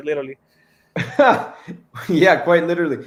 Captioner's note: soft laughter